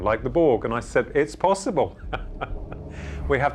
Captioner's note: laughs